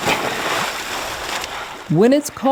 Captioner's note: water splashes